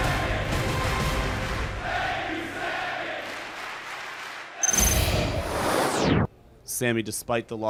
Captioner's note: fans chanting